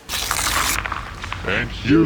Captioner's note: paper crunching